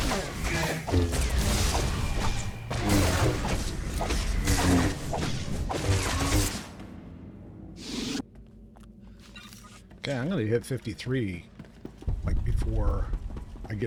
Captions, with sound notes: [gunshots] Okay, I'm gonna hit 53, like, before I